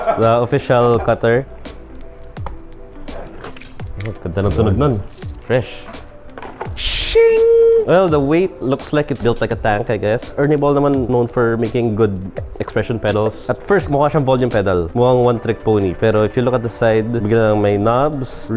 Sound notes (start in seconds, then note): 3.1 packaging being cut